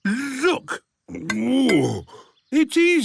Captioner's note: grunts